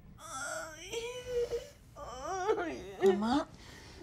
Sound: moaning

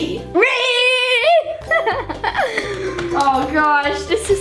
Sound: laughs

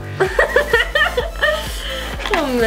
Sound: laughter

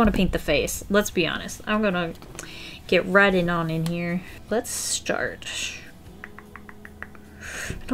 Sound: mouth thinking noises

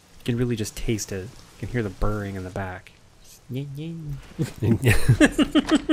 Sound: mimics chainsaw

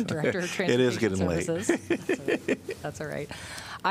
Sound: laughter

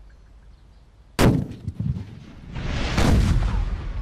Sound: gun banging

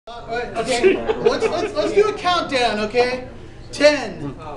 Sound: chattering

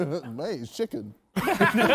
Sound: men laughing

